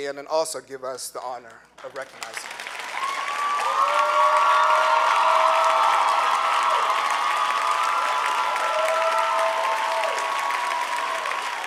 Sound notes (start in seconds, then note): 3.1 clapping; 5.9 cheering